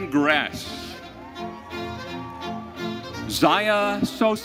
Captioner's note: audience cheering